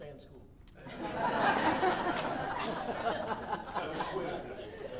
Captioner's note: audience laughing